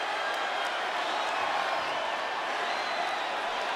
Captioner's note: audience cheers